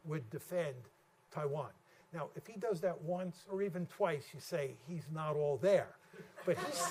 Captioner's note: laughter